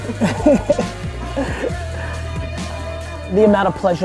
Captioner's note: laughs